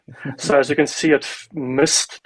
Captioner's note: laughs